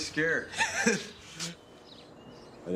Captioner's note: laughs